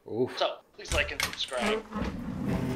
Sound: on phone; door opening

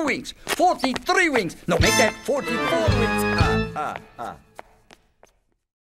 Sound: laughs

